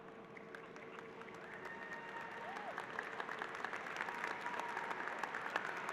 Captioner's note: applause